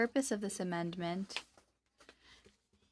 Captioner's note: speaking French